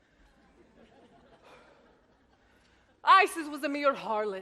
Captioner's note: audience laughs